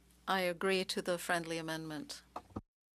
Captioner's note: speaking French